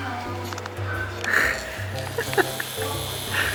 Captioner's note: laughing